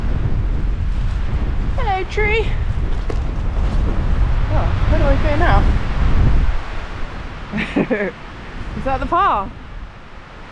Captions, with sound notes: *wind* hello tree *wind* oh.. where do I go now? *chuckles* is that the path?